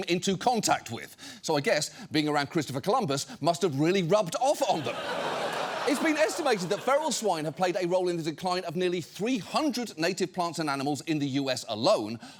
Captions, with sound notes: into contact with. So I guess being around Christopher Columbus must have really rubbed off on them. (STUDIO AUDIENCE LAUGHING) It's been estimated that feral swine have played a role in the decline of nearly 300 native plants and animals in the U.S. alone,